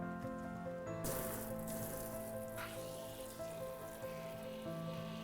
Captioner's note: water spraying